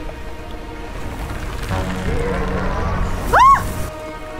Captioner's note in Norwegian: Brøl